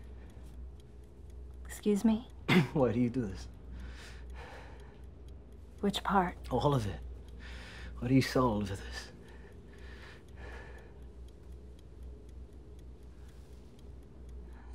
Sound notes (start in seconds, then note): 2.4 coughs; 11.1 timer ticking quietly